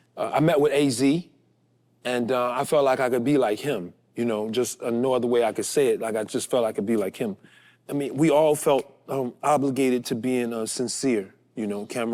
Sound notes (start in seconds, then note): none